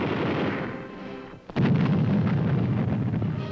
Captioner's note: explosions